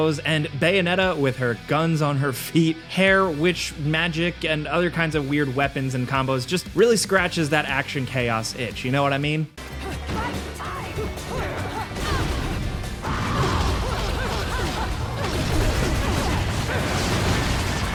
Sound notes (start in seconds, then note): 11.8 weapons blasting